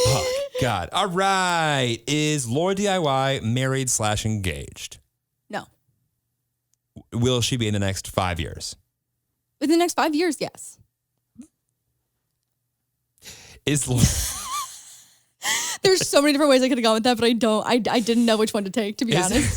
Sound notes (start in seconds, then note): 13.7 laughs; 19.1 laughing